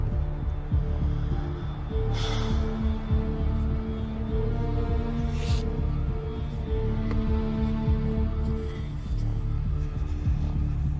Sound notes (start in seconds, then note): 2.1 masked assailant sighs